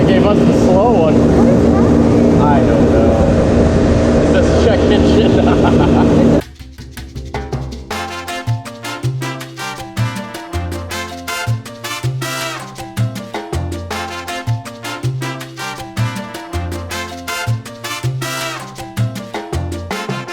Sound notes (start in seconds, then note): 4.4 laughing; 7.4 caribbean music